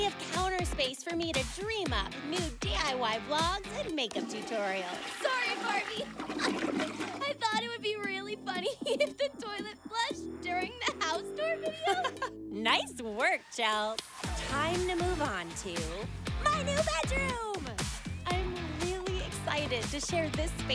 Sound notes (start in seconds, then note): 4.1 toilet flushes; 11.5 laughs